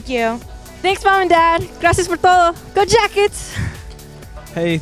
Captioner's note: non-english